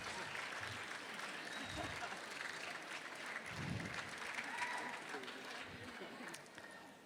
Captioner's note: applause